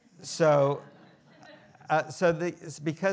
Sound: students laughing

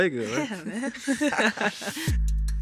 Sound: all chuckle; bright upbeat music

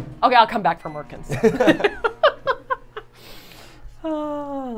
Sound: all laughing

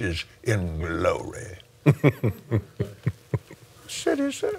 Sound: chuckles

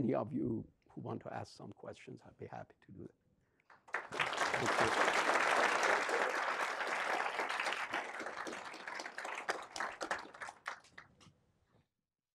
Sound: audience claps

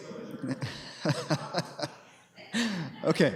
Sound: laughter

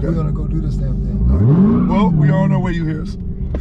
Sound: car engine revving

